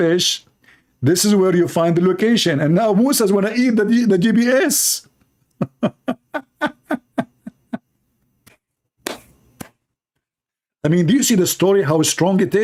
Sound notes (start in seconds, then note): 5.5 Ketawa